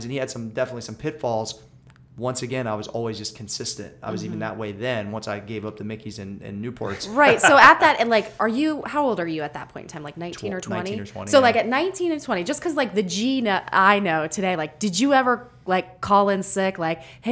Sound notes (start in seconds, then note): 6.9 laughter